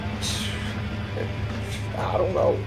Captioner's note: Johnny sighs